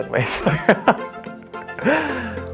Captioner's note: laughs